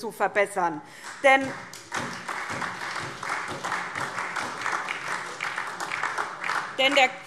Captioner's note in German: Beifall SPD und DIE LINKE